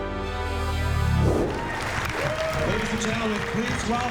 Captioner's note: cheering and applause